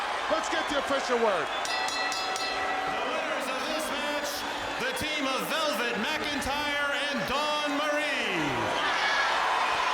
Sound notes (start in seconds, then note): 1.6 bell ringing